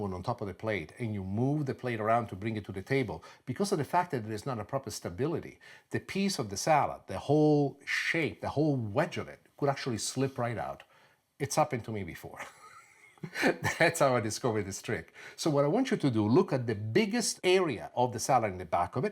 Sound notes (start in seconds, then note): 12.4 laughs